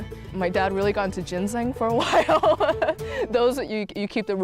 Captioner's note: laughs